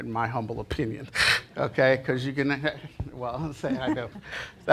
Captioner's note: gasps